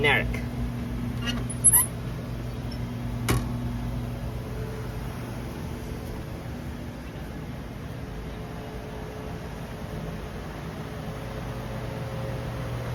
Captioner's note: walking